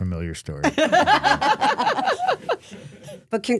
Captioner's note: laughing